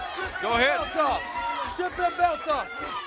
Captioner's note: crowd chatter